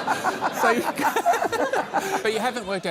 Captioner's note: laughs